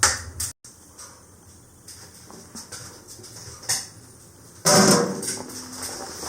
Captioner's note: boil